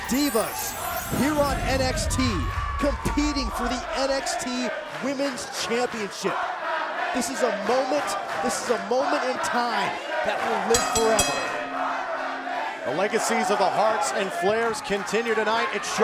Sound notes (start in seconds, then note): 7.4 fans chanting; 12.1 bell ringing